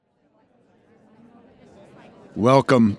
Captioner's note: people chattering